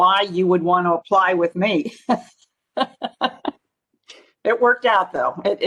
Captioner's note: laughing